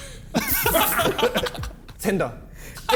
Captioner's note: men laughing